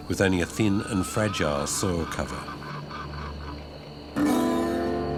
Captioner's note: horse brays; suspenseful music